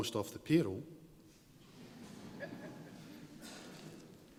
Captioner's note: scattered laughter